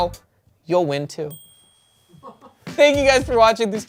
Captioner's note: bell dings